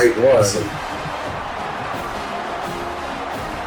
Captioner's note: crowd Noises